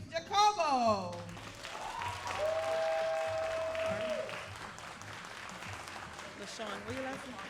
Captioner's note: all applauding and cheering